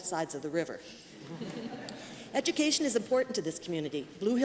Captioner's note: laughter